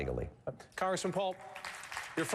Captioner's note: applause